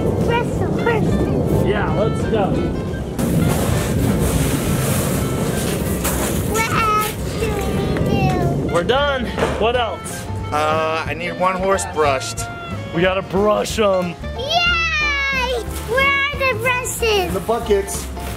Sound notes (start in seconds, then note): 3.2 crunching of gravel